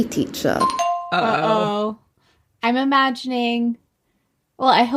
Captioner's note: bingbong